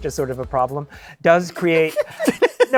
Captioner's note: laughter